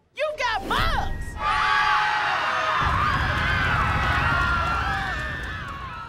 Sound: screaming

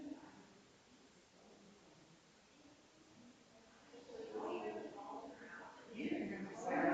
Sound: people chattering distantly continues

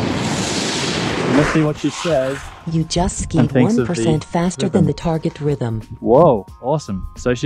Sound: Carv voice

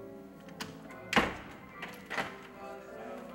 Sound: door slams

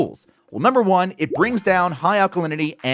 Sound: graphics popping

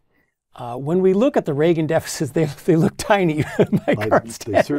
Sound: laugh

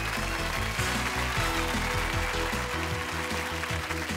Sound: cheers and applause; upbeat music

